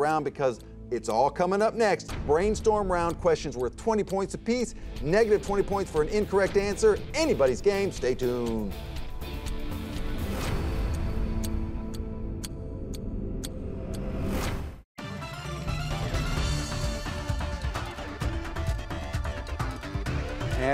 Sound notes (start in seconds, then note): 8.6 clock ticks; 8.6 upbeat music; 15.0 energetic music